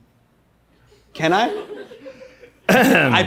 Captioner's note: clears throat